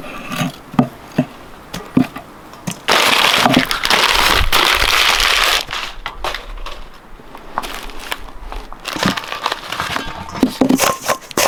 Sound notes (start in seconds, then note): 2.8 paper rustling